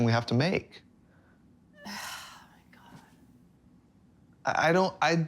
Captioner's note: sighing heavily